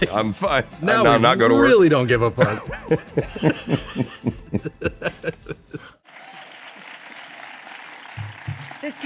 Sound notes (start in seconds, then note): 3.1 laughs